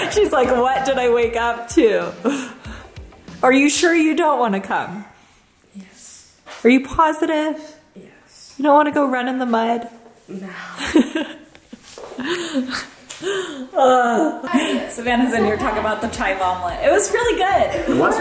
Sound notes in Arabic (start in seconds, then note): 10.7 يضحك